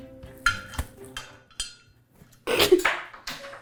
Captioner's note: screw clinking; giggling